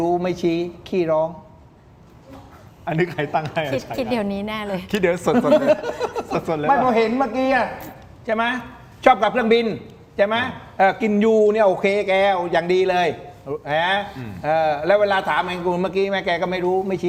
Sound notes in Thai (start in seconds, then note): 5.6 เสียงหัวเราะ